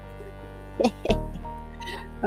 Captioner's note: laughs